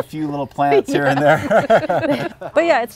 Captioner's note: everyone laughs